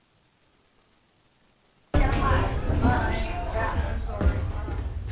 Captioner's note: chatter